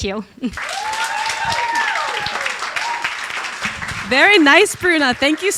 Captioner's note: audience applauding